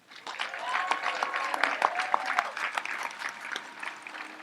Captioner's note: audience applauds